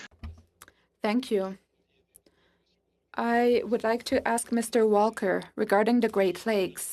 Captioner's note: speaking French